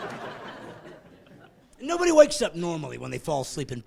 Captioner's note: laughing